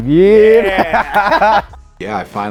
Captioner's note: laughing